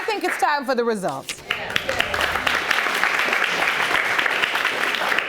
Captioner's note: audience applauding